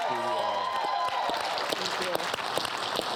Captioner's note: applause